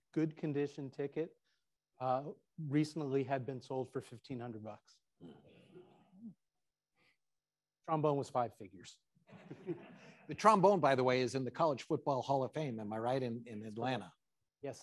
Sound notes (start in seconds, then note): 9.3 attendees laughing